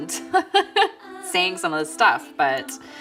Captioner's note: laughs